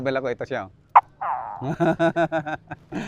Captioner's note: mimics gecko sound